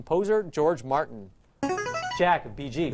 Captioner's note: answer bell